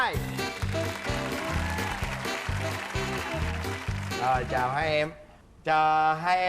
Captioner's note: applause